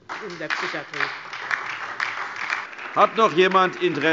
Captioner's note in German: Beifall DIE LINKE und SPD